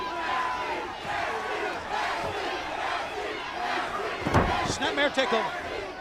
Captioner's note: crowd cheering